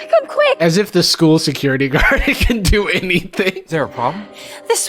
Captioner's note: laughs